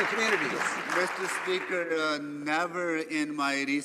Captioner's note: some Applause